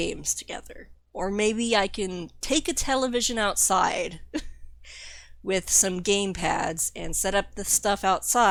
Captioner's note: laughs